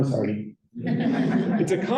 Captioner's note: laughter